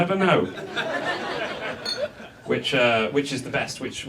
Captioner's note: audience laughs